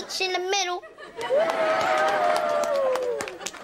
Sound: applause

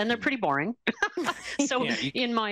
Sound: laughs

